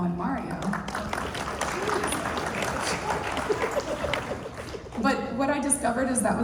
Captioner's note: applause